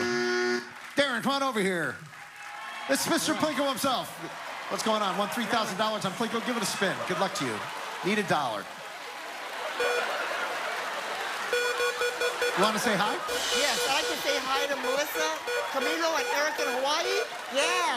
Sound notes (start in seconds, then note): 0.0 buzzer; 9.0 beep; 9.3 laughter; 11.4 beeping